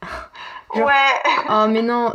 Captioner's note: laughs